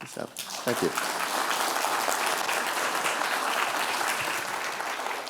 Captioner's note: audience applauding